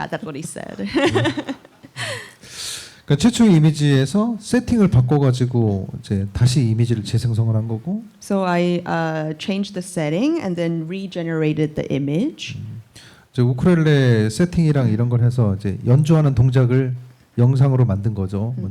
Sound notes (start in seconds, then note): 2.8 speaking korean; 13.3 speaking korean